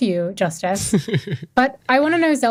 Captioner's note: chuckles